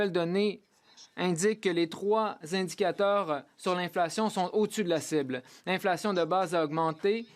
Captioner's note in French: voix de l'interprète